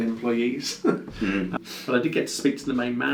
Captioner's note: laughs